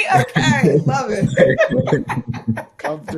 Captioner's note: laughing